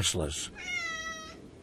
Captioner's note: rico meows